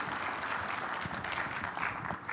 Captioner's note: audience applauding